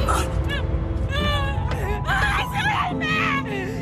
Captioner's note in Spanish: Sollozos